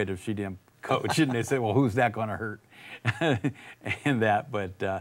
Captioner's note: laughs